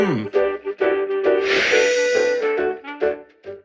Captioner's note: magic wand swooshes